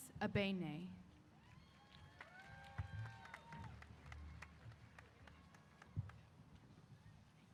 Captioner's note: applause & Cheers